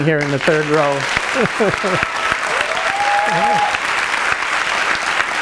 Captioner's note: audience clapping